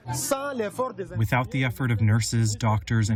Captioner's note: through translator